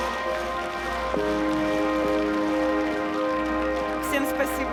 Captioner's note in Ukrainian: оплески